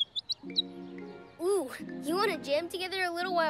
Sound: chirps

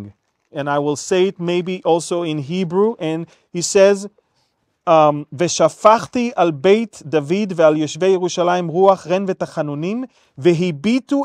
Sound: Hebrew sentences

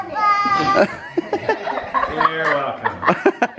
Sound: laughter

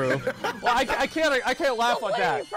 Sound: laughter

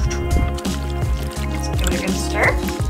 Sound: mop swishing

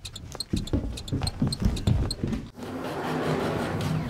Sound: shoes squeaking

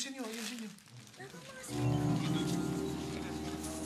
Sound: indistinct chatter

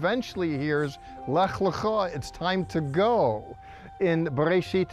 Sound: speaking Hebrew

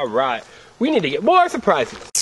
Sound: voiceover

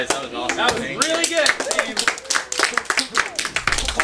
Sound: cheering; applause

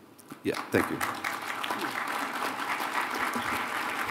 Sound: applause

